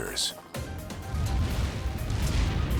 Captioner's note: explosion